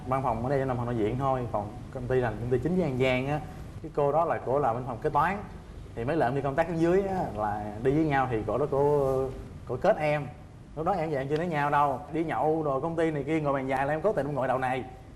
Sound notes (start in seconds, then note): none